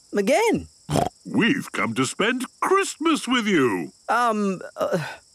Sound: snorting

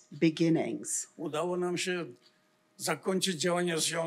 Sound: foreign language

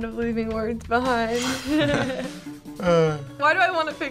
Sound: both chuckle

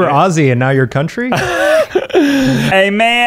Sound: laughing

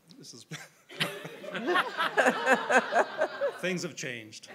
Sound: audience laughing

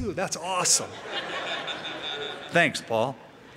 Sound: laughter

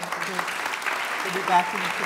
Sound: applause

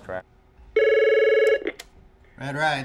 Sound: phone rings

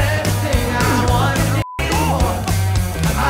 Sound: beep

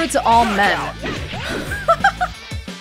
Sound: laughs

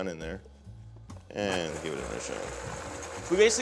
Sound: blender blending

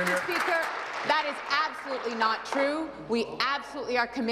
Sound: applause

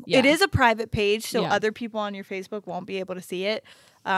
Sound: none

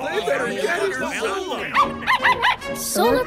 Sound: barking

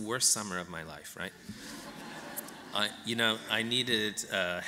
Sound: laughter

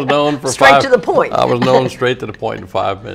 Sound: laughter

